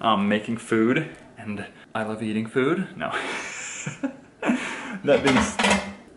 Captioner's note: laughs